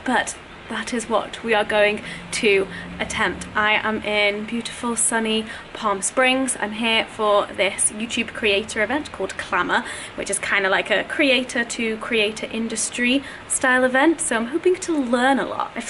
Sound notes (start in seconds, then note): none